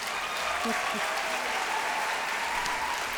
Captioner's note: applause